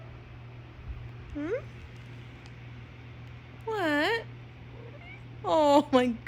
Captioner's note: Mila meows; Mila meows